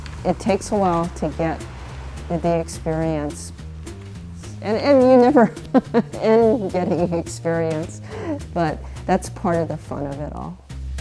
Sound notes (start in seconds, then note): 4.5 laughs